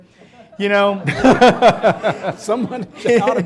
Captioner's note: laughing